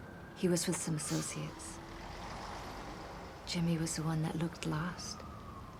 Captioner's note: none